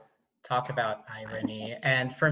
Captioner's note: laughing